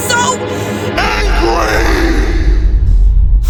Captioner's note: monstrous voice